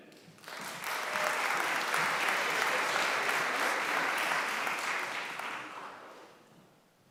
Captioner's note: applause